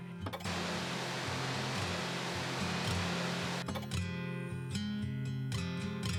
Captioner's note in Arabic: صوت صفير ثابت; موسيقى جيتار هادئة